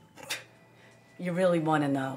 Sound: fortune teller scoffs

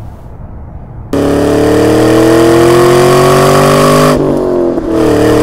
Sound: engine revving

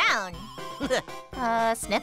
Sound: laughs

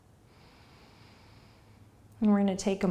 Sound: inhaling

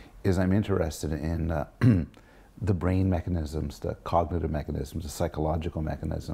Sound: cough

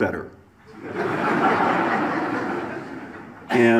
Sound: audience laughs

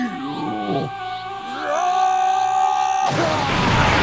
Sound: SP Cell screaming

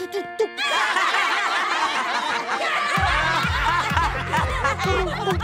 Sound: laughing

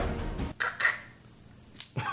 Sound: gun loading; laughter

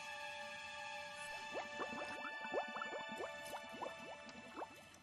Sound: bubbling

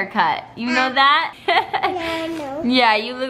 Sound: laughs

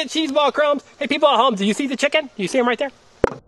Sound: voiceover

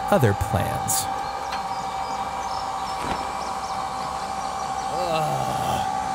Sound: hydraulic curtains glide; groans

